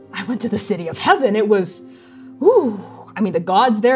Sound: exhaling

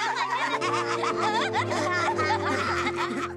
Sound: children laugh

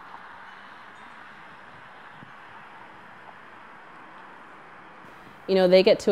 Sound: wind

